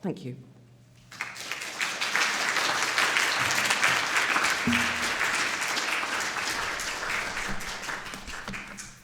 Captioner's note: applause